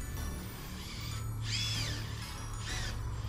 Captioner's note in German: Akkuschrauber